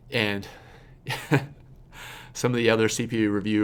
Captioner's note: laughs